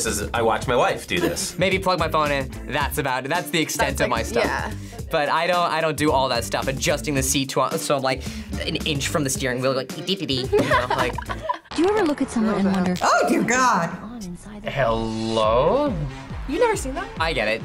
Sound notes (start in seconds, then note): 10.4 laughs